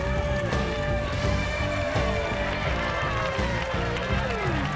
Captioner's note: crowds cheering